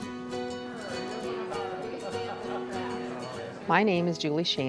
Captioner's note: indistinct chatter